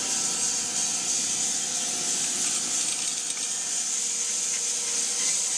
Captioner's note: saw buzzing continues